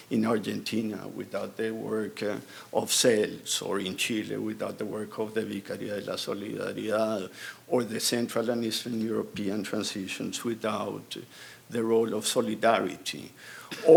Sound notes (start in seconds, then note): 5.5 speaking in foreign language